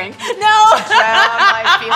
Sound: laughs

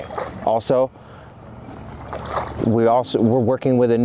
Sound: water splashing

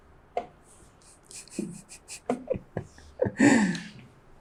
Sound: chuckle

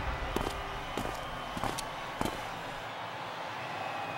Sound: cheering

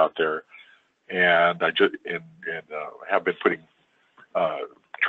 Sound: stammering

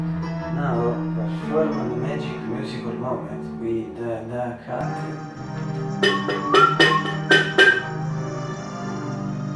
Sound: whistle

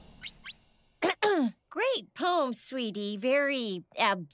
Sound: clears throat

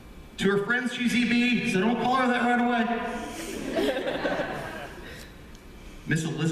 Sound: laughter

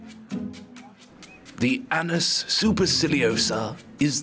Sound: imitates david attenborough

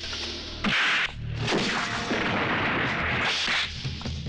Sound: explosion

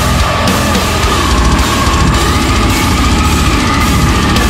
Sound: metal screaming

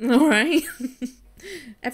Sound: laughs

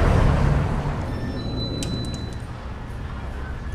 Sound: door chimes

